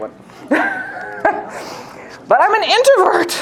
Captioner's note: laughs